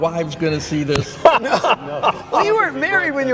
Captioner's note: all laughing